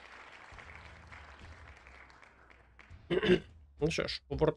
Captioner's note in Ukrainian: оплески